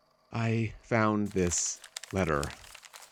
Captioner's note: paper unfolding